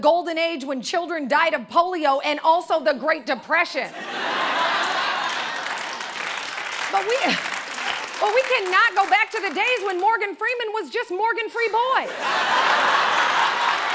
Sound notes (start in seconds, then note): 3.8 laughter and applause; 7.0 chuckles; 12.0 laughter